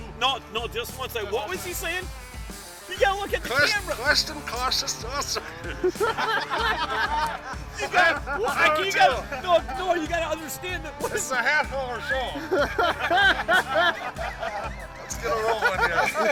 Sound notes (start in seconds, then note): 6.4 laughing; 14.0 laughing